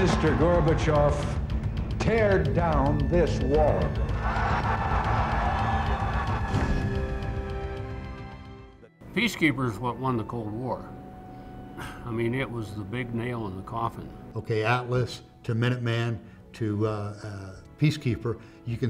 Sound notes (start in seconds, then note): 4.1 cheers